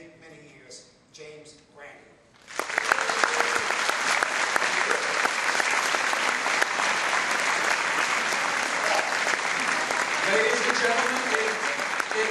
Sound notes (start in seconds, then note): 2.4 applause